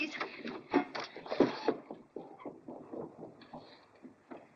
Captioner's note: scurrying footsteps